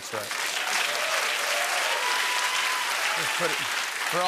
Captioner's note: cheering and applause